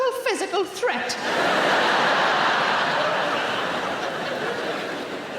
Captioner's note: audience laughing